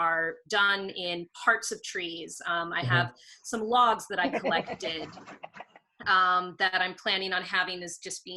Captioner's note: someone laughs